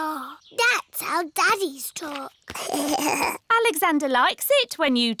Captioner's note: alexander giggles